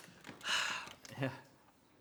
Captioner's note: clapboard clicking; sighs